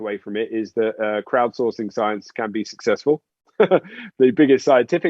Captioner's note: chuckles